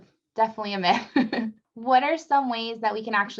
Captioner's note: laughs